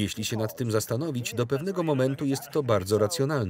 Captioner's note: laughs